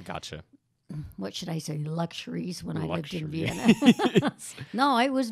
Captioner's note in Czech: Smích